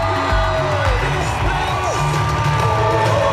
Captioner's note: cheers